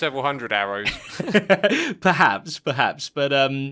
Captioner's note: chuckles